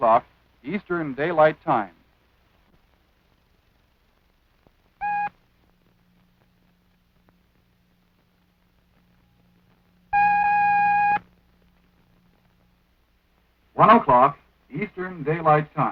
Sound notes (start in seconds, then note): 5.0 short beep; 10.1 long beep